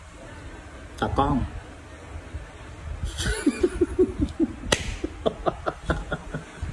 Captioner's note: laughter